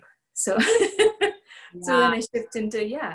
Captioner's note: laughter